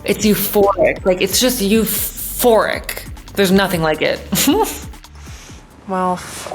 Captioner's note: giggles